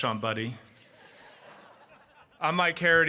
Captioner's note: audience laughing